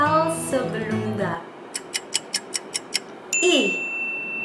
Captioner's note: clock ticking